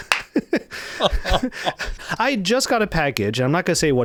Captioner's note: laughs